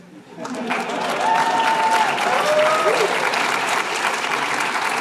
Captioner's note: applause